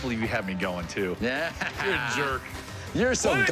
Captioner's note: laughs